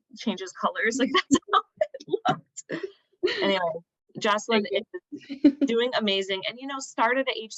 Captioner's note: laughter